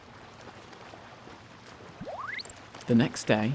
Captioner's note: gentle wave sounds; notification bleeps